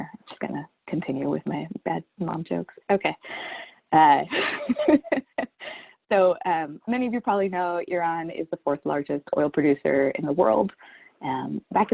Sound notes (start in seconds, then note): 3.8 laughs